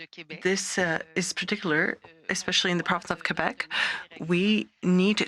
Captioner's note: speaking French